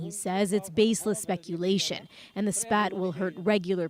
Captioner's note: speaking alternate language